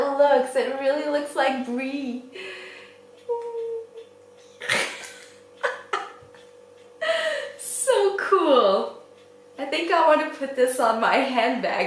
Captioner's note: laughs